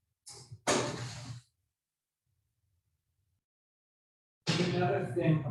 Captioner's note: door clicking shut